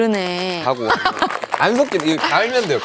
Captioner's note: hahaha